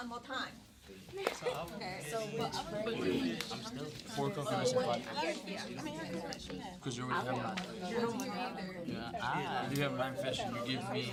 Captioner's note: students murmur